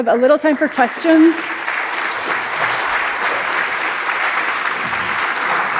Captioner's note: audience applauding